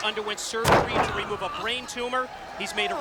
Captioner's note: mat thumping